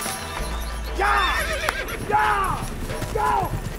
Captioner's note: horses neigh